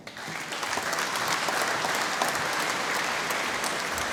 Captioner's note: applause